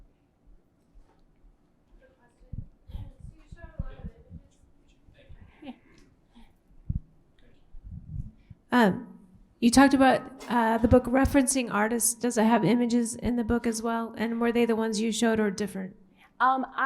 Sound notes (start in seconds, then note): 3.7 murmurs